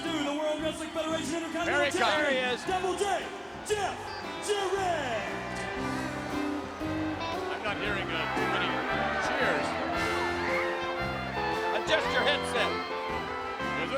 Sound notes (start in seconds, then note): 10.3 audience booing